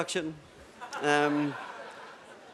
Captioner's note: laughter